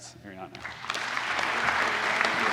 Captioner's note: applause